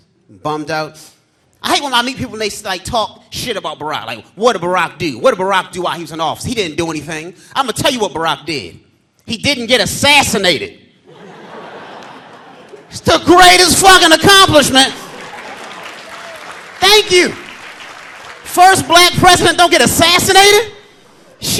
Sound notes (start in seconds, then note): 11.0 audience laughing; 14.9 audience applauding